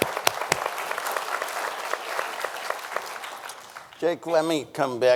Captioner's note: applauds; audience applauding